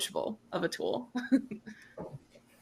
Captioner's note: chuckles